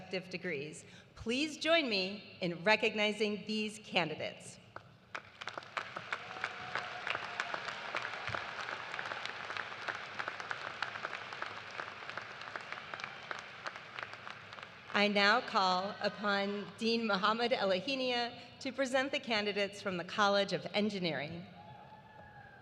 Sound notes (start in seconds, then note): 8.7 cheers and applause